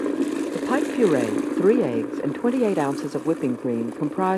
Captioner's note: voiceover